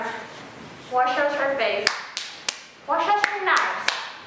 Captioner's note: clapping